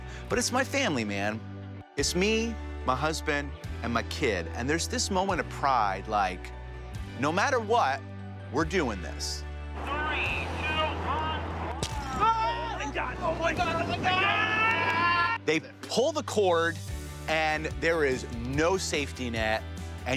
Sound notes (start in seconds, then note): 14.1 both screaming